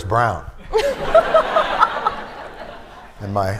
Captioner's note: laughter